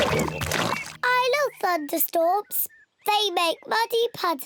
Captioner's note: oinks